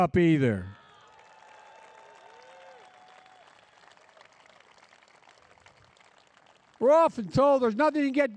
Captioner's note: applause